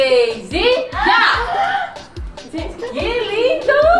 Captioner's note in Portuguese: Suspiros surpresos